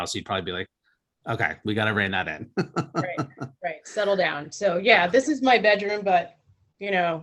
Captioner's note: laughs